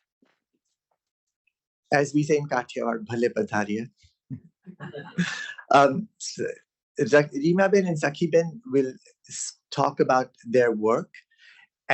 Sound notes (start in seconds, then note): 3.5 non-english; 4.4 laughter